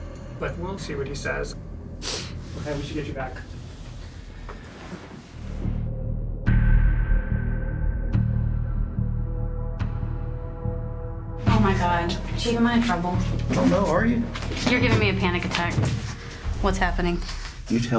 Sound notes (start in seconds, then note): 2.0 sniffles